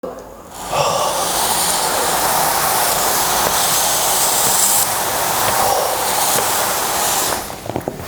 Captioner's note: awkward breathing